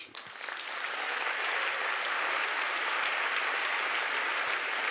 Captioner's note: audience applauding